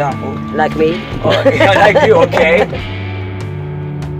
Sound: laughs

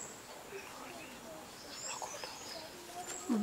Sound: whispers

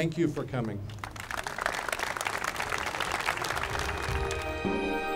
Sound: applauding; bright music

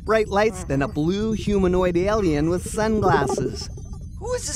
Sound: Snap Communicator noise

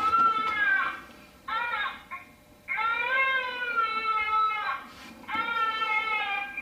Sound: baby crying

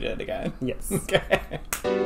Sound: both laughing; upbeat music

